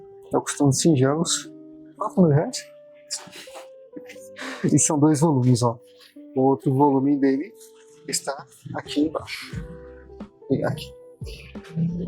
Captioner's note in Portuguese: risadas